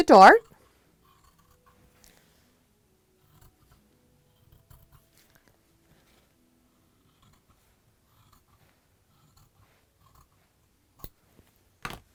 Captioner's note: no significant sound